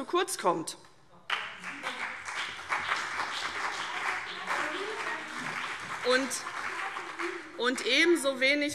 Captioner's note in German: Beifall CDU und BÜNDNIS 90/DIE GRÜNEN